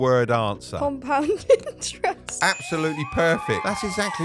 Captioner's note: bell dinging; crowd cheering